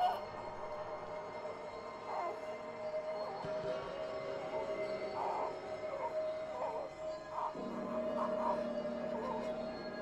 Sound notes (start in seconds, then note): 2.1 baby whining